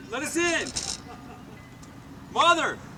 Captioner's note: laughing